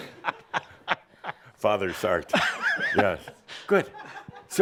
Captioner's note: chuckling